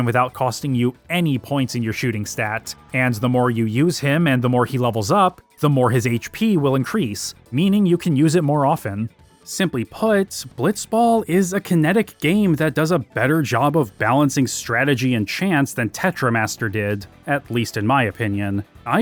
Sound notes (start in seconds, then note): none